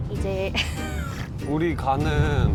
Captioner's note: fails to hold back laughter